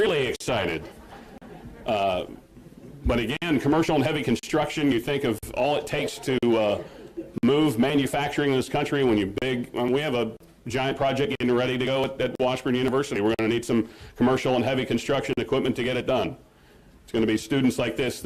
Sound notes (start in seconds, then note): 0.9 laughter